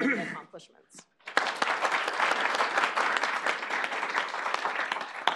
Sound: applause

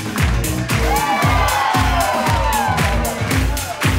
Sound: audience cheers

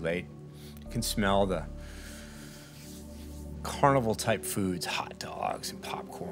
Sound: inhales

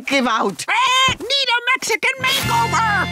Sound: squawking

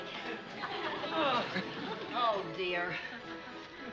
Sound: grunting

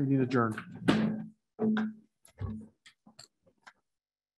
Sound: gavel strikes

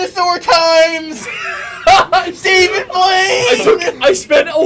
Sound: laughs

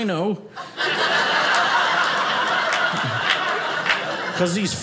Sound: audience laughing

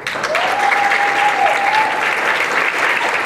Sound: applause and cheering

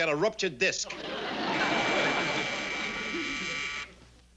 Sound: door buzzer

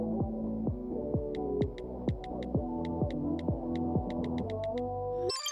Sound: keyboard clicking; music fast forwarding

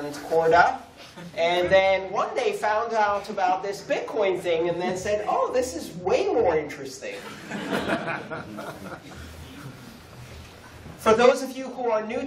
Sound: laughter

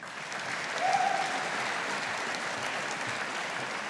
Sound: audience applauding

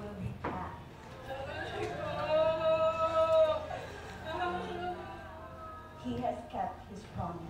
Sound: crying

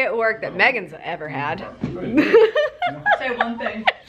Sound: giggles

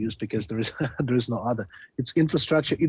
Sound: chuckling

